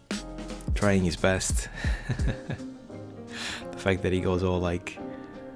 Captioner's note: laughs